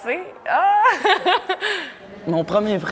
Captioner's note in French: rire